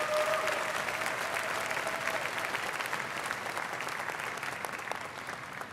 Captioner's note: applause